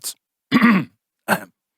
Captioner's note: coughing noise